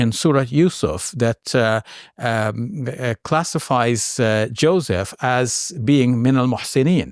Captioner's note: speaks Arabic